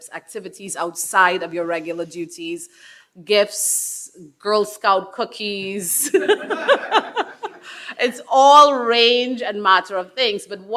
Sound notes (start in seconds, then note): 6.0 attendees laughing; 6.0 laughing